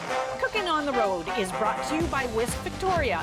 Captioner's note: announcer voice